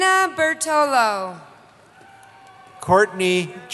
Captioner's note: cheering